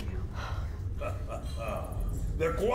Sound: chuckles

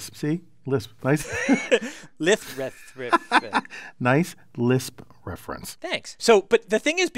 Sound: laugh

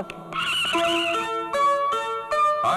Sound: brakes squeal

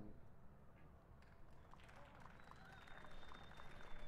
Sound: applause

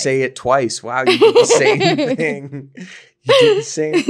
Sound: laughing

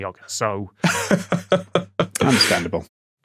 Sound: laughs

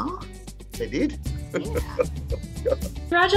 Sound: laughter

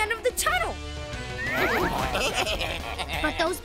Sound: baaing

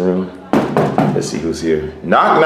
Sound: door knocking

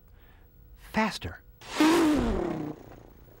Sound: imitating race car

